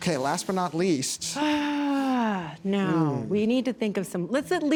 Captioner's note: sighs